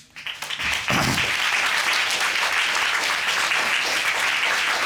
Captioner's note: applause